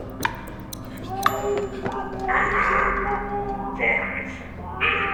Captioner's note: victim screaming